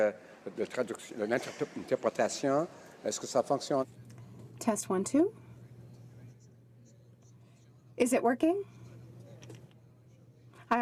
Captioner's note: speaking French